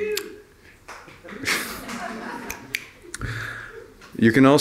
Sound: laugher

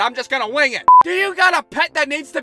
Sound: beep!

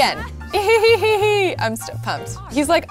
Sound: laughing

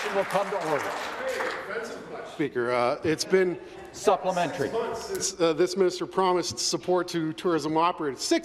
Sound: applause

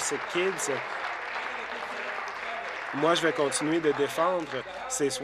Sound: applause

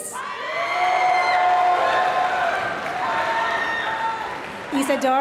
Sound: applause

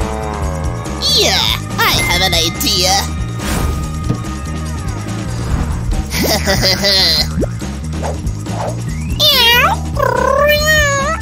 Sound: meows

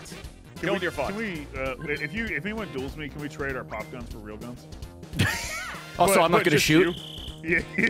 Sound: laughs

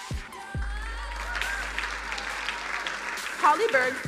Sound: crowd applauding

